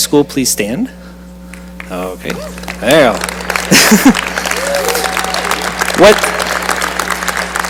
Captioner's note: cheering and applause